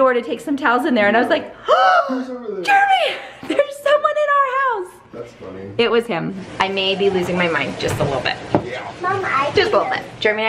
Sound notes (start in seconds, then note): 1.8 gasping